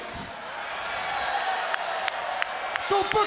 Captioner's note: crowd cheering